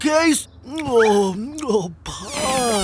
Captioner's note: munching